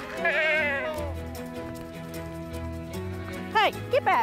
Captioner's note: animals chattering